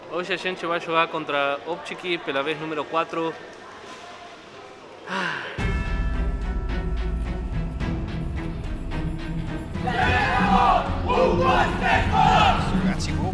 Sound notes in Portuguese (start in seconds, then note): 5.0 suspiro; 9.7 grito de guerra